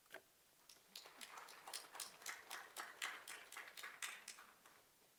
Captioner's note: applause